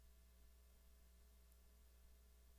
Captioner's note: none